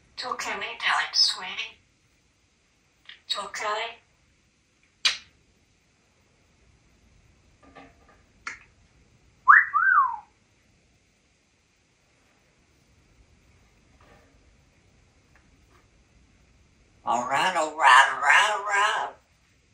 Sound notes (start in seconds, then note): 9.4 sexy whistle